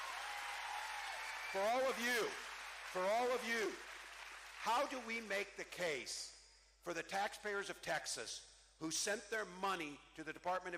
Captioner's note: cheering